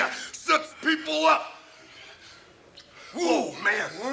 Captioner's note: Elizabeth smooching